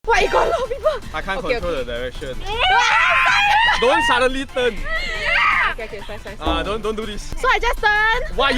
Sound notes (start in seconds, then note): 2.5 scream of fear